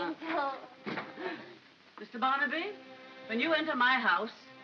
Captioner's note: door closes